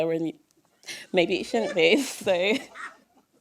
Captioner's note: laughter